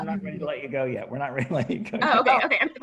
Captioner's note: chuckles